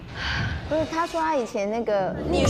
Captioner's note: deep breathe